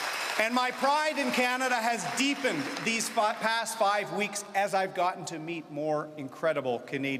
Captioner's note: cheering and Applause